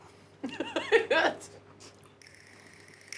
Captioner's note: laughing